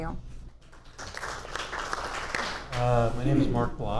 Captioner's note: audience applauds